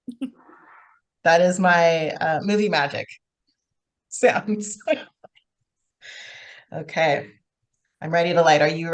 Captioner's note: laughs